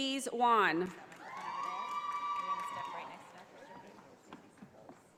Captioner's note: audience applauding